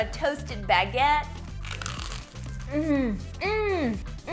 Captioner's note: crunch